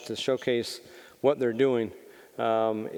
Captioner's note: none